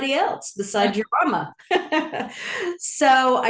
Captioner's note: laughs